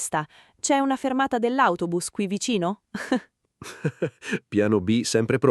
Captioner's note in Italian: Haha